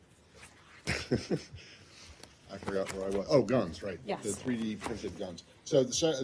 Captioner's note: laughter